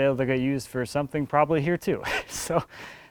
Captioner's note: laughs